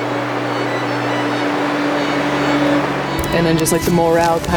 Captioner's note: wind whooshing